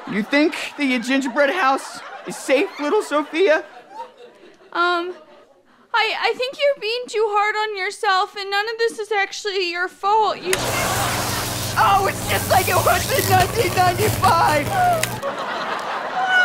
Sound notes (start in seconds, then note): 10.5 zapping